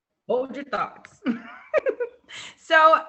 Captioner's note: laughs